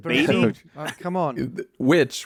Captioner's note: laughs